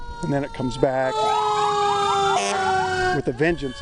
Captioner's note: sirens ringing